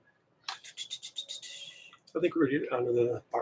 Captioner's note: whistling